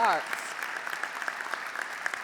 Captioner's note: applause